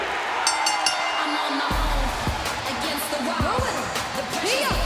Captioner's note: bell ringing